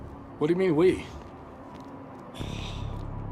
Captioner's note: sighs